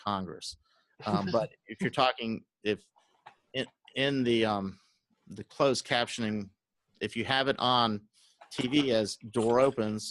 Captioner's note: laugh